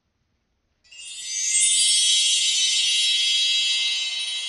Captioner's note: magical sparkling chime